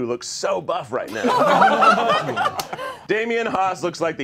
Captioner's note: all laughing